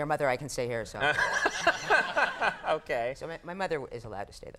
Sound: laughing

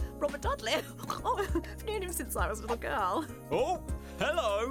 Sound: chuckling, snorting

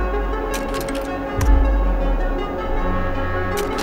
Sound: slides clicking

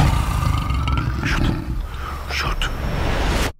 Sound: Sussurrando

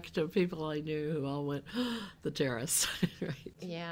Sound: gasps

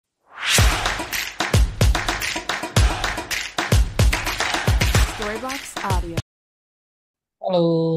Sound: applause

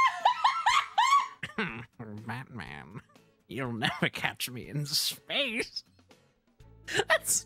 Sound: scream Laughing; Joker-ish Voice; laughing

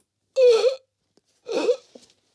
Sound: gasps

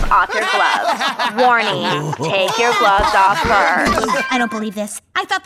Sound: laughter

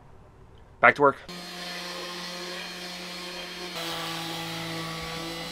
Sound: sanding machine humming

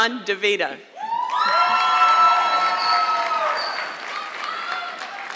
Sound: audience clapping

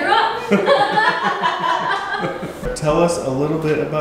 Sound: laughing together

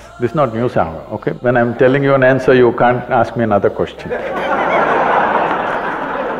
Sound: laughter

